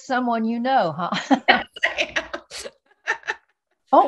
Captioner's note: laughing; laughs; still laughing